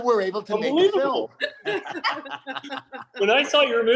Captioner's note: group laughs